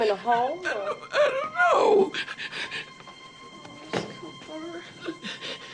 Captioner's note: sobs